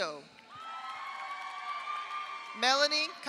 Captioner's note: audience applauds; audience cheers